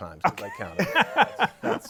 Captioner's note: laughter